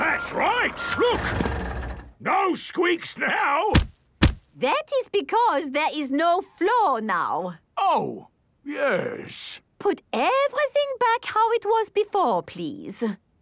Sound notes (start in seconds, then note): 4.1 thuds